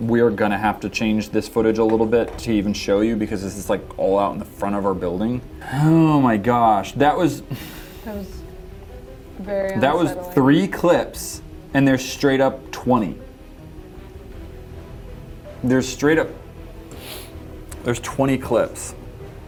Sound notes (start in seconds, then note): none